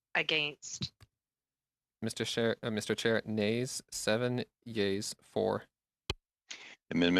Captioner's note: speaking French